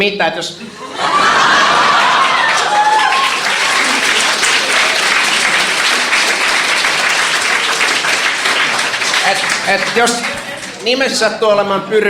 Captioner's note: laughter, applauding